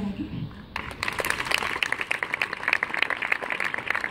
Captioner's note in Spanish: Aplausos